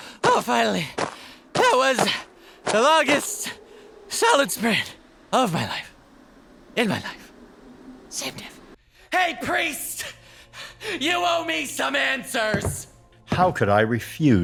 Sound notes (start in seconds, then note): 0.9 pants; 8.0 whispers; 10.1 pants